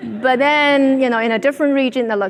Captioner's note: audience laughing